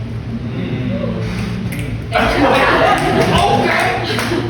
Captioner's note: snaps & laughs